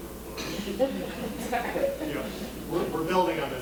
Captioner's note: audience laughing